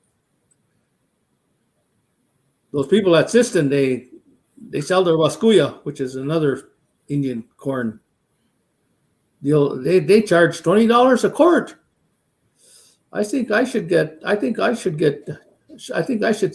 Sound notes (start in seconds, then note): 5.4 speaking Dakota